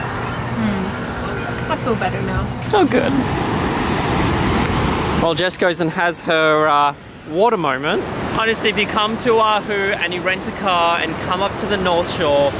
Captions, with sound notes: - Ummm. I feel better now. (beach wave sound) - While Jessica has her water moment. See if you come to Oahu and rent a car come up to the north shore.